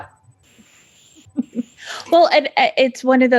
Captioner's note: laughing